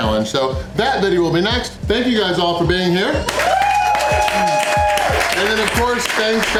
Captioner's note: crowd applause